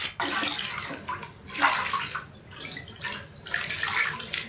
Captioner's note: water splashing